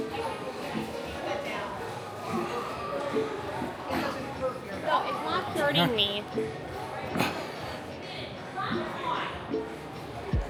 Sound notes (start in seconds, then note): 4.7 children chattering